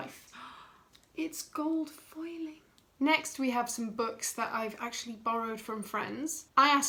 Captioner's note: gasp